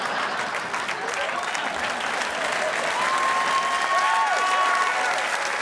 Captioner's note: audience applauding